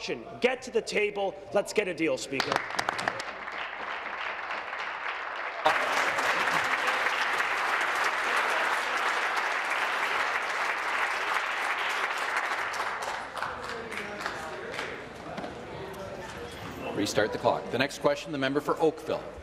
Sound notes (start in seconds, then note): 6.0 applause